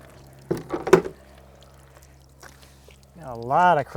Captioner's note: wood thuds